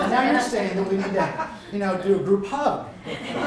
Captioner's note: laughter